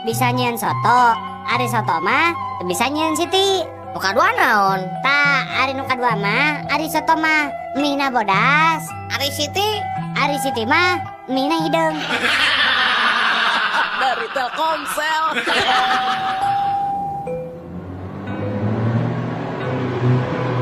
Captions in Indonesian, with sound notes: bisa nyieun soto, ari soto mah teu bisa nyieun Siti. Nu kadua naon tah? Ari nu kadua mah ari soto mah emina bodas. Ari Siti Ari Siti mah mie hideung dari Telkomsel. [tertawa]